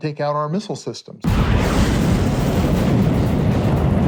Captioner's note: rocket blast